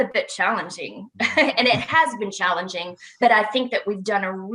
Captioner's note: laughs